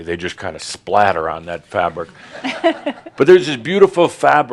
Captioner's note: a few chuckles